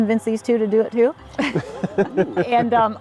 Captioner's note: laughs